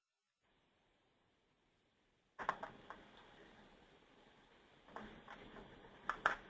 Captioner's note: long pause